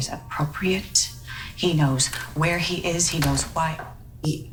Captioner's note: door shuts